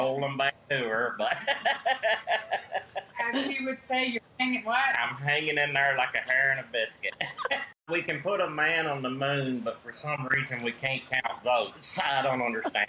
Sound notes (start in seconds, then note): 7.0 laughter